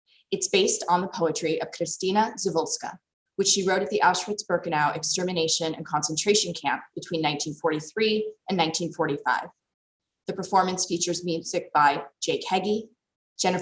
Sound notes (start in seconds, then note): none